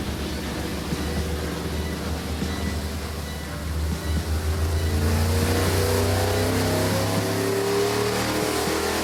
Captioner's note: engine running